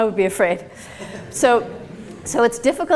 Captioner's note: audience laughs